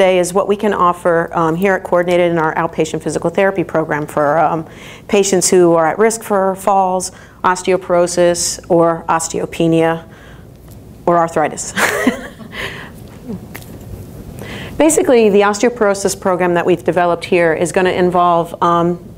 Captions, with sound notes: is what we can offer here at Coordinated in our outpatient physical therapy program for patients who are at risk for falls, osteoporosis, or osteopenia or arthritis. (chuckles) Basically, the osteoporosis program that we've developed here is gonna involve,